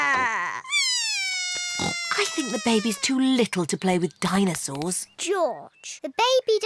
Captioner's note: bawls